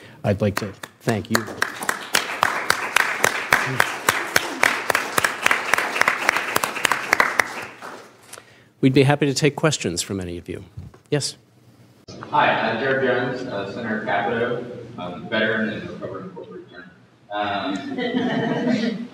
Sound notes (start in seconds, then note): 0.4 applause